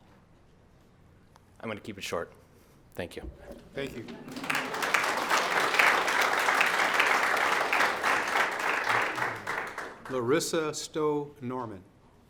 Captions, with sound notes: I'm gonna keep it short, thank you. Thank you. (audience applauds) Larissa Stowe-Norman?